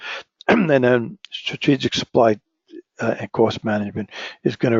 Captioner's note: cough